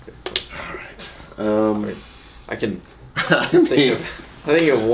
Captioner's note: laughs